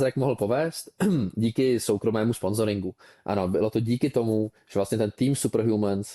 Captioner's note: clears throat